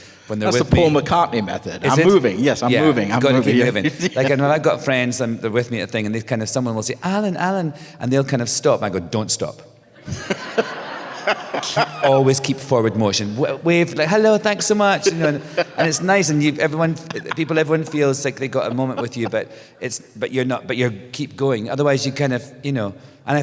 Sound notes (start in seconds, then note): 9.9 laughter